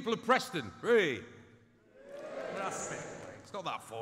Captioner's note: audience cheers